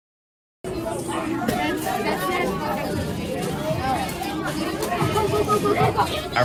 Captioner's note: students chatting with one another